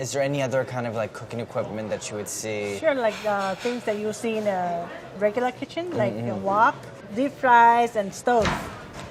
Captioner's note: none